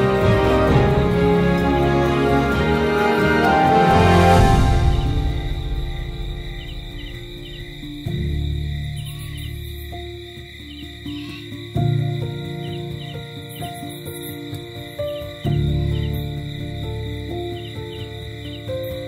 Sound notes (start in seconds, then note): 7.6 soft bells ringing; 10.5 soft piano playing